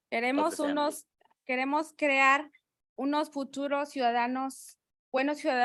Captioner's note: speaking in Spanish